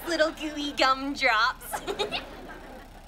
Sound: giggling

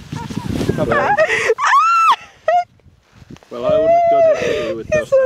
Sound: high pitched laughing; laughing drowns out speech

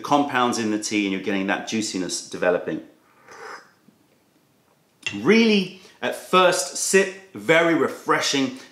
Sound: sips tea

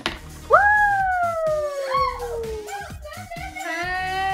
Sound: laughs

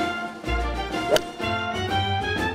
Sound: jaunty music; golf club striking golf ball

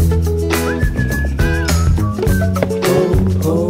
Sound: man whistling

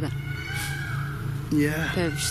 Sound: peacocks squawk

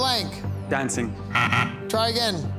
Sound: buzzer beeping

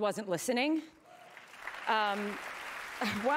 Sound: cheering

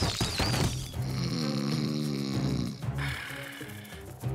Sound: snoring

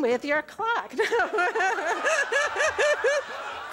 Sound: laughter

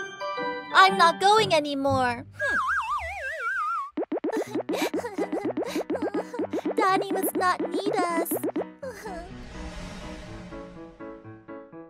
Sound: sobs

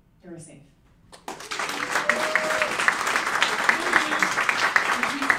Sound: applauding and cheering

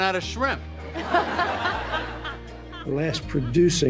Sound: Elaine, audience laugh

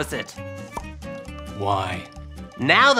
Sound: pops

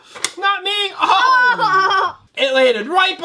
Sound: laughing

